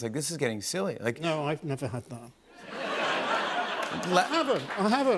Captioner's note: laughter